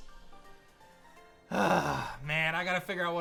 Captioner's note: grunts